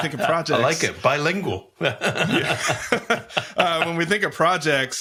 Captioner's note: laughs